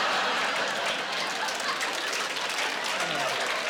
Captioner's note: applause